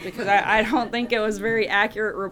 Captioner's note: laughter